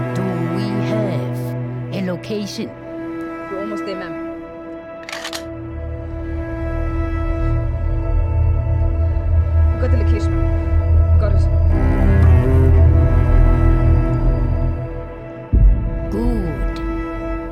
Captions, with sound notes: Do we have a location ? We're almost there Ma'am... [GUN COCK] We got the location Ma'am... we got it. Good!